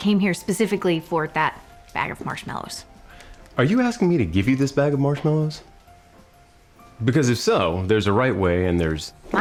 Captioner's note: none